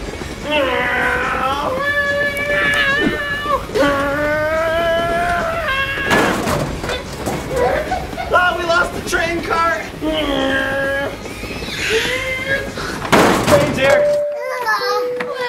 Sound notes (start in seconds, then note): 0.6 vrooming noises; 10.1 vrooming noises